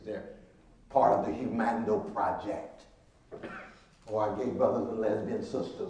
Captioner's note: speaking Latin